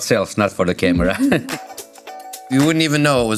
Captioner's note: laughing